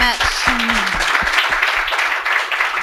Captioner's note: applause